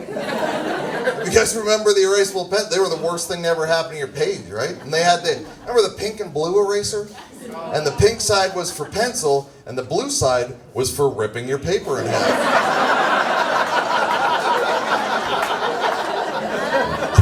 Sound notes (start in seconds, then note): 0.0 laughs; 11.7 audience laughs